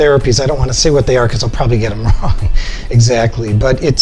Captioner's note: chuckles